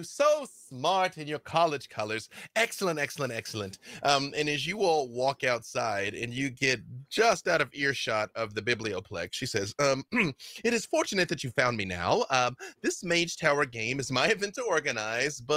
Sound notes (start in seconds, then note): 10.2 clears throat